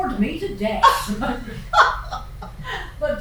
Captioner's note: laughter